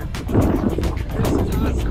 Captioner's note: loud wind gushing